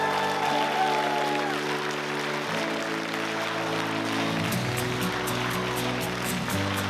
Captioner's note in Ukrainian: оплески